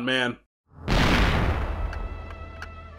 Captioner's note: gunshot